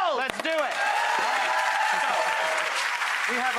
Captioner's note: audience cheering and clapping